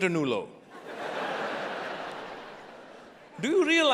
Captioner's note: audience laughing